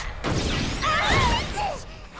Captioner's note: all groan